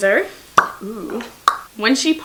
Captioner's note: popping noise; top pops off